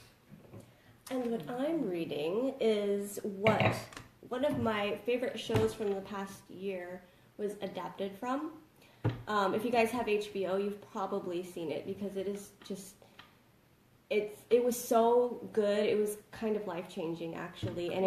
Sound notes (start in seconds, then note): none